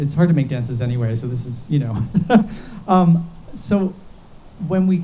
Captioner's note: laughs